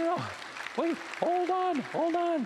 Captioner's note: applause